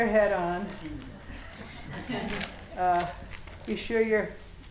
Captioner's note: students laughing